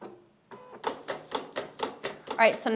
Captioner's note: machine clicks